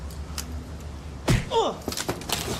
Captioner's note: loud thud and grunt